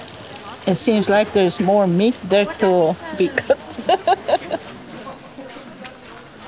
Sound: laughing

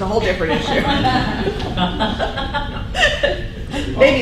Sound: laughing

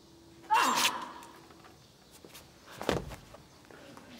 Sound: Ying Zheng yells; sword plunging; sword swishing

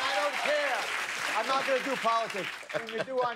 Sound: laughter; cheers and applause

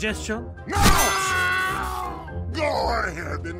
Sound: Spy screaming in pain again

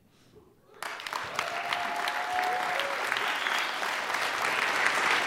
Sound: applause

